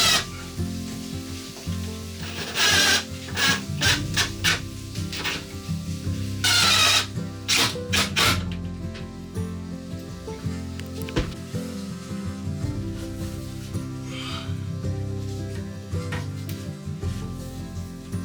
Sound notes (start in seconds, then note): 6.4 drill whirring; 11.7 soft music